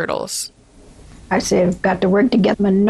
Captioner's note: soundbite of archived recording